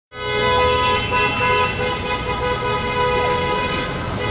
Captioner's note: car horns honking